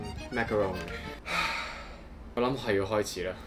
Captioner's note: sighs